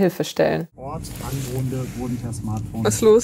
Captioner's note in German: Autoradio im Hintergrund